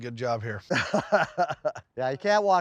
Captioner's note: laughs